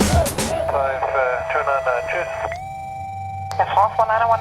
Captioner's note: radio message